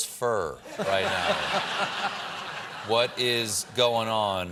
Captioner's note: laughter